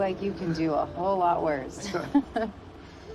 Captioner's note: both laughing